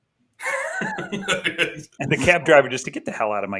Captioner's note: laughter